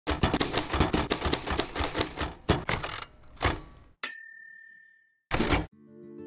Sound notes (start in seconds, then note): 0.0 typewriter sounds; 4.0 ding